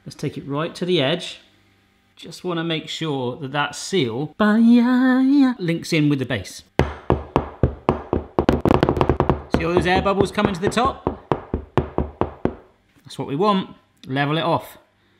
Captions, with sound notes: Let's take it right to the edge. Just wanna make sure that that seal, (singing) links in with the base. (tapping) See all those air bubble comin' to the top? That's what we want, level it off.